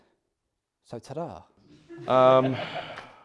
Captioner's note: laughter